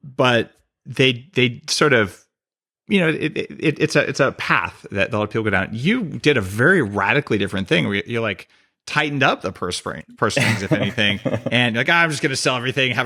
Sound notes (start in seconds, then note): 10.3 laughs